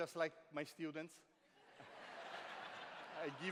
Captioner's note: laughter